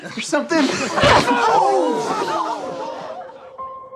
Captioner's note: people react, gasp; screams